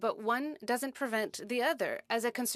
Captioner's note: speaking French